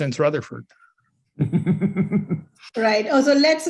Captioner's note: chuckles